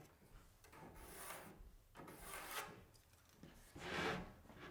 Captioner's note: pencil scratching